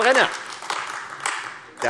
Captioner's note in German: Beifall AfD